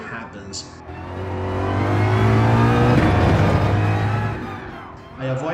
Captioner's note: engines revving, cars noises